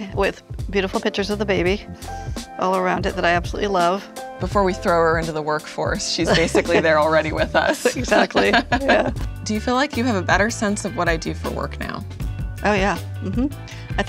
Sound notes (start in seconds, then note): 6.2 laughing